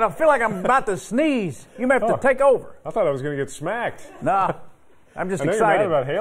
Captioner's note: laughter